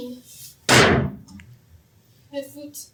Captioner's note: sticks pound